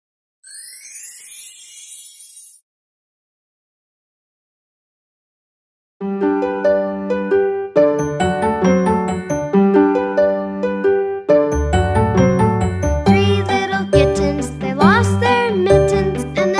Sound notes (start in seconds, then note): 0.4 magical chiming; 6.3 happy music